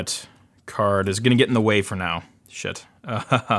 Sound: laughs

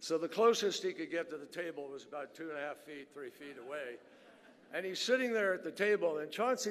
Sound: laughter

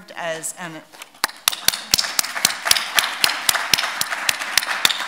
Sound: audience clapping

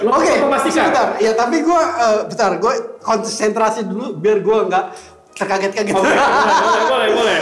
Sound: laughing

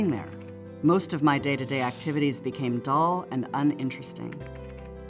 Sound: keys clicking

